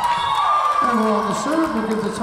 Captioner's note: whistle blowing